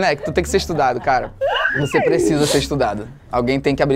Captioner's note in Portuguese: risadas